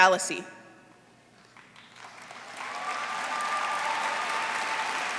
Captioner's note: applause